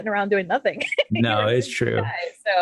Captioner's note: overlapping chatter